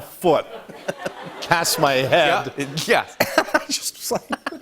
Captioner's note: laughter